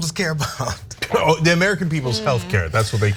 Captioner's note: laugh